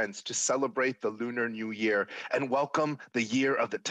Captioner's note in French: voix de l'interprète